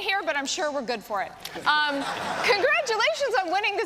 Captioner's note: laughter